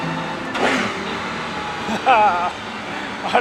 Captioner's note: engine roaring